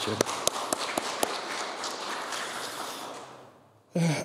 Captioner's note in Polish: oklaski